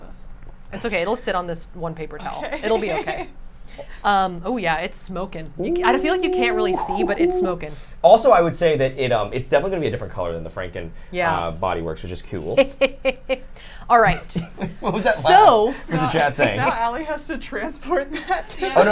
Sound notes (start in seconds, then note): 2.2 giggles; 5.6 hoots; 14.1 snickers